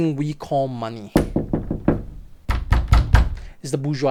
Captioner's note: knocks on door